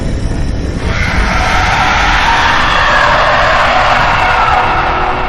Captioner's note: creature roaring